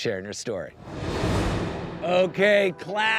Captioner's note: graphics whooshing